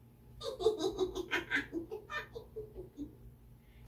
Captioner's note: Fox laughing